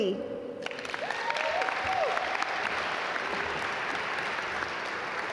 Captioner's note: audience applaud